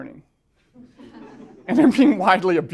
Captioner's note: laughter